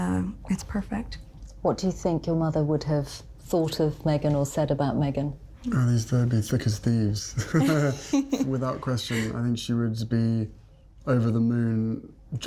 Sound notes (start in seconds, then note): 7.4 laughing